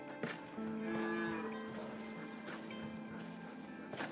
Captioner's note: cow mooing